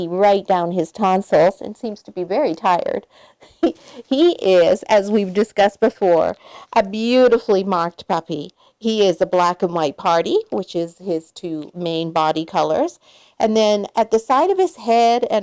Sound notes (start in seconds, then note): 3.5 laughs